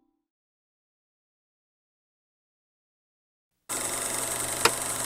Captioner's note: projector clicking